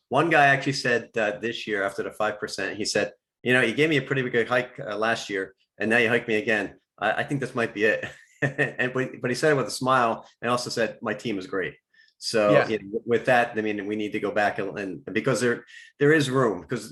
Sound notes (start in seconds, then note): 8.0 chuckles